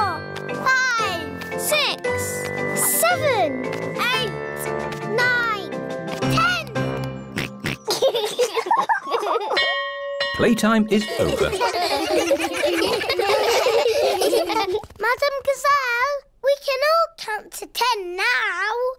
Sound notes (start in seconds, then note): 7.4 oinks; 7.8 both laugh; 9.4 bell chimes